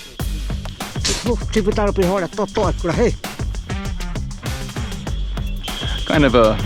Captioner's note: speaking in foreign language